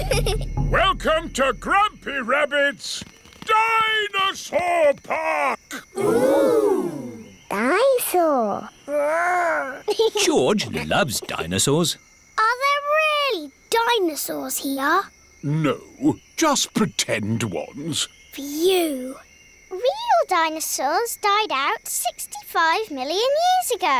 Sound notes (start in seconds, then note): 0.0 children giggling; 9.6 giggles